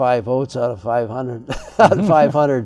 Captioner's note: chuckles